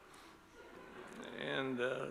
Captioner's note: audience laughs